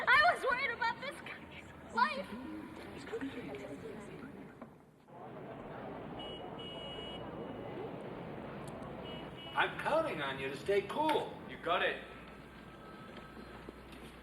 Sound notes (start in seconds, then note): 3.7 people chattering; 5.0 group chattering; 5.9 horn honking